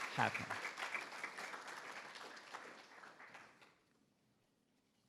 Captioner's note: attendees applauding